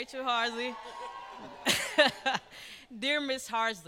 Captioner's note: cheering